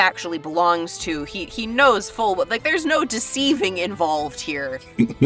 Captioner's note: chuckles